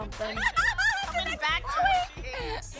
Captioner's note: cackles